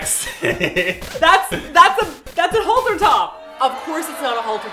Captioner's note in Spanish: abucheos de fondo